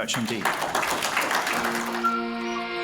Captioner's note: applauding